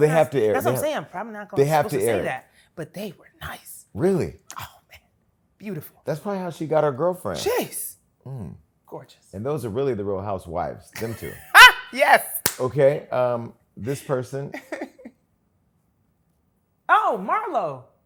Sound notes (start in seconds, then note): 11.4 laughs; 14.7 laughs